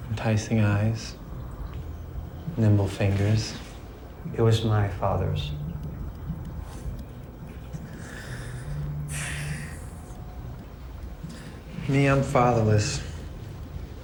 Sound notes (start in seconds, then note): 9.0 inhales sharply